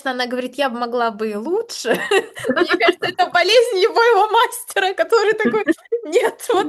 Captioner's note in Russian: смех